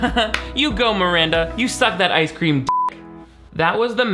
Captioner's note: beep